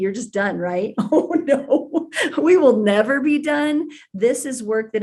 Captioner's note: laughs